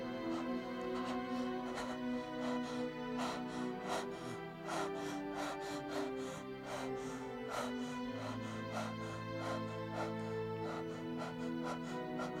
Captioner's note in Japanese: 秀一の荒い息遣い